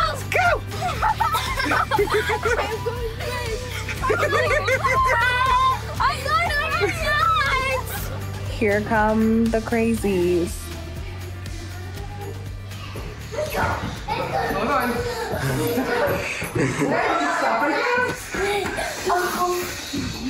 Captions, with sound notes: - Ready, set, go! - Go! (laughing) - Here come the crazies. - Let's go, let's go. - Hold on. (kids chatting)